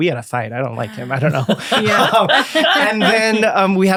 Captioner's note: all laughing